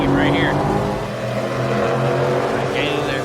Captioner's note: engines rumbling